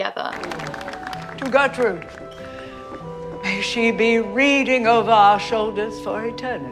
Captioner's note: crowd clapping; gentle music